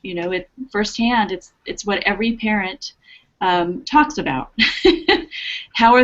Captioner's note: laughter